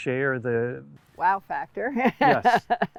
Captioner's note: laughs